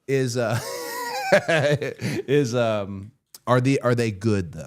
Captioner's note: Cody laughs